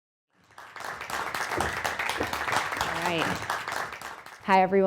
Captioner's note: audience applauding